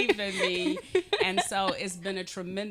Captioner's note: laughing